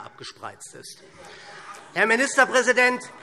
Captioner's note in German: Heiterkeit SPD und Freie Demokraten